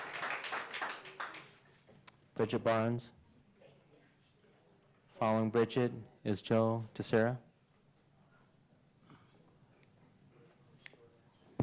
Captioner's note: applause